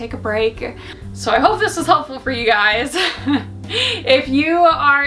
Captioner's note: giggles